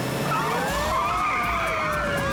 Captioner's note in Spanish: chirrido de neumáticos